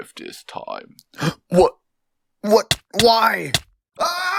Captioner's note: gasp